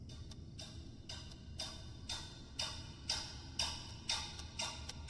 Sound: clock ticking

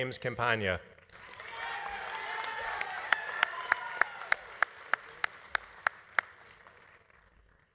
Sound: audience applauding; audience cheering

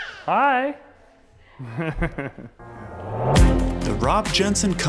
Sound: laughing

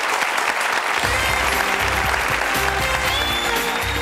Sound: audience applauding

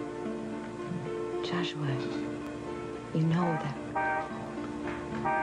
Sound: car horn beeps outside

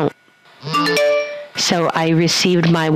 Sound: sound of Mobile Phone

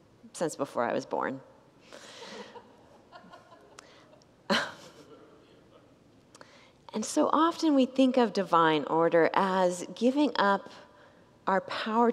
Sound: congregants laugh

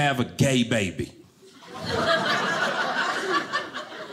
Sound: audience laughing

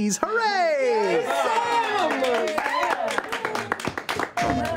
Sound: cheers and applause

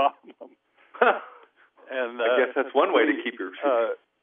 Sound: both laugh

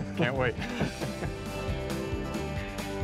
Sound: both chuckling; upbeat music

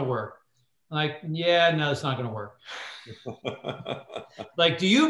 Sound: laughter

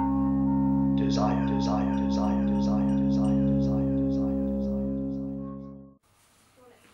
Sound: echoing

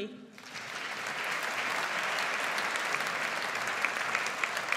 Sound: audience applauds

